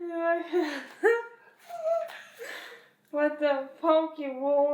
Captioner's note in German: kichert